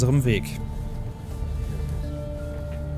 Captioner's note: pensive sounds